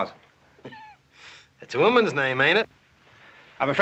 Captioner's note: scoffing